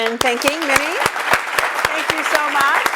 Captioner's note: applause